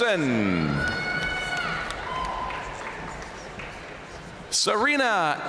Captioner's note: audience cheering and applauding